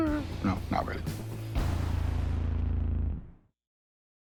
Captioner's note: imitates crying